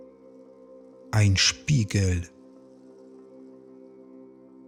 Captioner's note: german